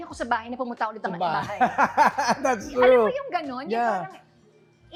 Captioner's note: laughs